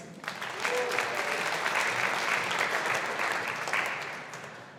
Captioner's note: audience applauding